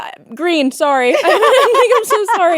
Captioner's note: both laughing